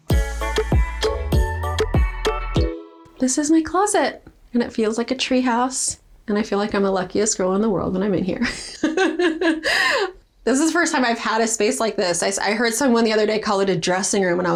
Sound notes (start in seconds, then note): 0.0 bright upbeat music; 8.4 laughs